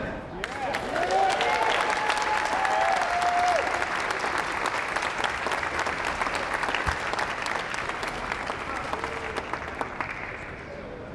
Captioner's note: applause